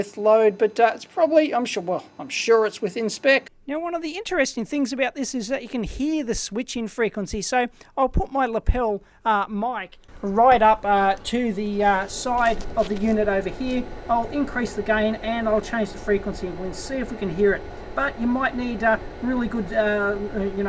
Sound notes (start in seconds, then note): 10.1 humming sound